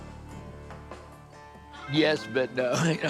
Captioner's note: laughs